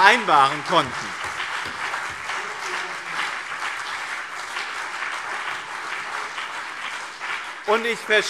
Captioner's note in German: Beifall BÜNDNIS 90/DIE GRÜNEN und CDU